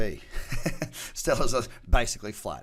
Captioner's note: chuckles